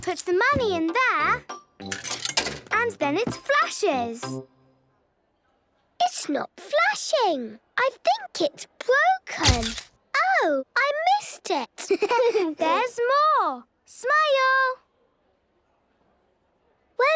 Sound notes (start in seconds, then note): 1.9 coin tumbling; 9.7 camera clicks; 11.9 giggling; 15.7 silence